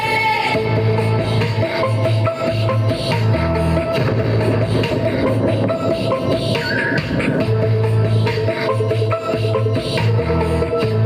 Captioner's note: whispered chanting